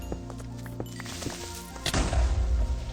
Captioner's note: Creeper hisses; boom